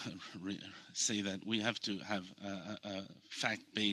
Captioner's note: speaking in French